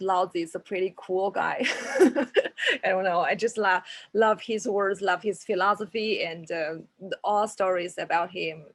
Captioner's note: laughs